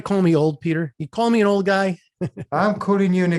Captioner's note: laughs